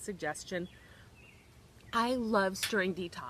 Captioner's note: birds chirping